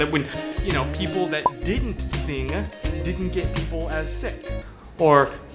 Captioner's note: continues in muffled voice